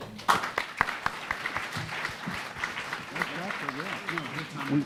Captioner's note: audience and panel applauding